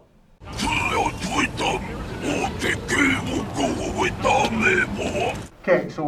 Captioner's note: alien sounds